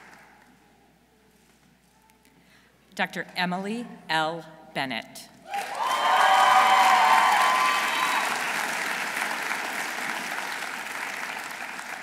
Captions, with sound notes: Dr. Emily L. Bennett. -(audience cheering) -(audience applauding)